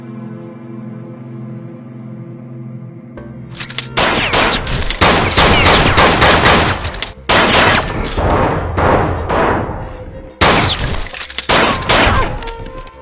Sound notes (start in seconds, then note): 3.9 guns firing; 9.4 light suspenseful music